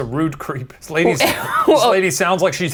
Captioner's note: laughing